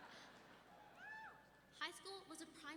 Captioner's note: audience laughing; audience member whooping